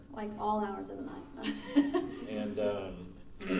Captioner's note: laughing